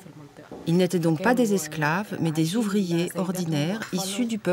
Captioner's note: Arabic spoken audio